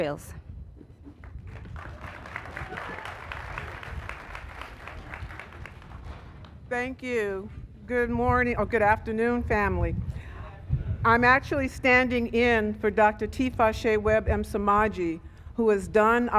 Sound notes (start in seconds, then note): 6.8 applause